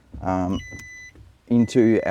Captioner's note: screen beeping